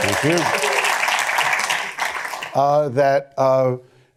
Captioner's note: applause